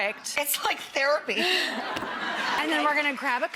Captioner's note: audience laughs